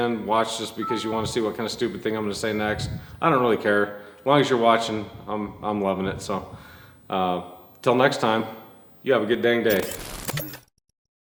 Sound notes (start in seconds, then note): 9.8 screen crackling